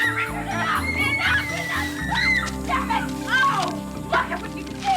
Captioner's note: Nancy screaming; everyone laughing